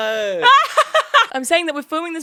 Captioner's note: laughs